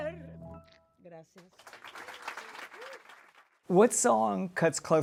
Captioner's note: applause